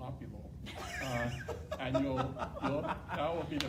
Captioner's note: laughing